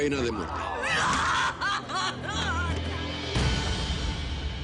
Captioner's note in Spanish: Llorando